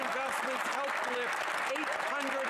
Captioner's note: some Applause